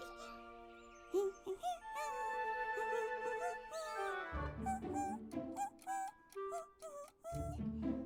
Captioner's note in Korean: 콧노래